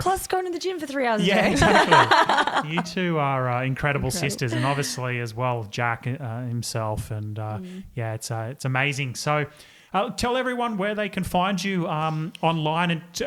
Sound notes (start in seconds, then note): 1.2 all laugh